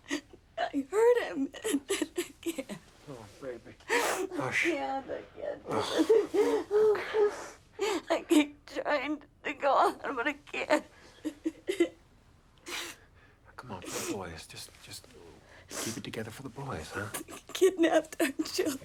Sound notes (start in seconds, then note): 5.4 sobs; 5.8 cries; 17.0 sobs